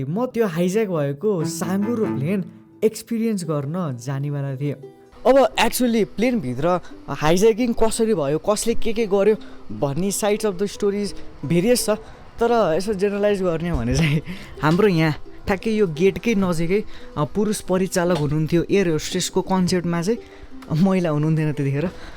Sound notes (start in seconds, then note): 13.9 giggles